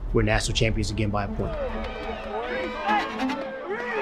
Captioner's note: crowd cheering